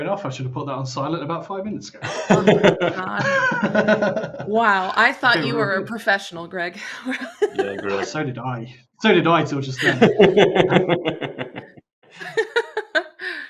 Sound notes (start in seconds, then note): 2.0 laughter; 6.7 laughs; 9.7 laughter